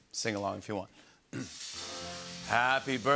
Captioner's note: clears throat